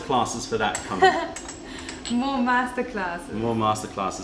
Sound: laughter

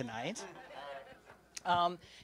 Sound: laughter

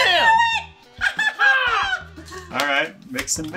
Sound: laughing

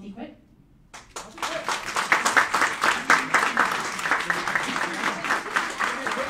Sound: applauding

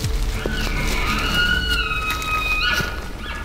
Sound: caller bugling

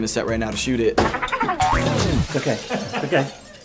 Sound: crashing

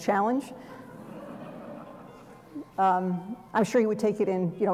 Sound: laughter

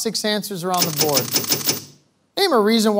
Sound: panels clicking

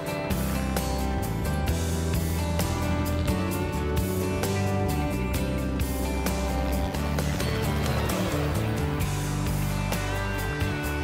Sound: helicopter sounds

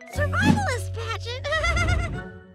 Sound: giggling

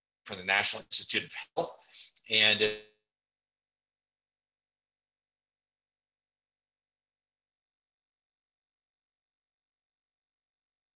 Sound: pause in audio, cut out

